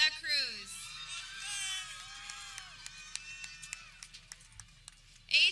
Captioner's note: people cheering